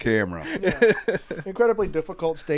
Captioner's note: chuckles